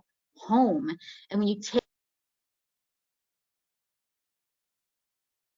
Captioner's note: audio muted